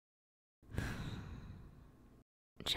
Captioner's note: sigh